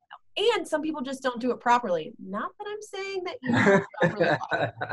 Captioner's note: laughter